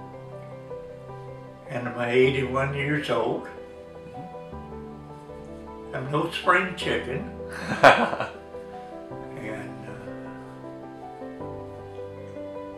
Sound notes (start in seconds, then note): 7.6 laughs